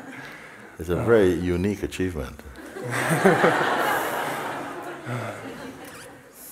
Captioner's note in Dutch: gelach